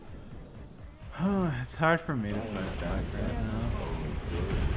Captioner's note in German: Säufz